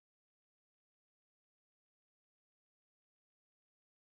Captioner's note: none